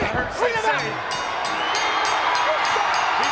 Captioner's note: crowd cheering; bell dinging